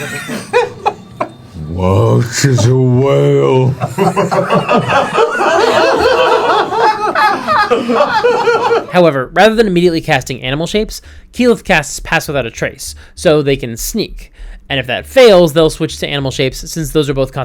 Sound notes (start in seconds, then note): 3.4 all laugh